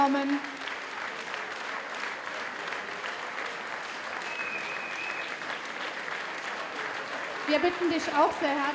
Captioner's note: applause